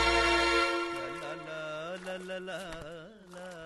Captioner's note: humming